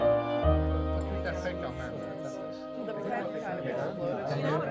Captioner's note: people chattering